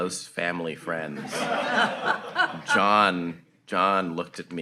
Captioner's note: audience laughing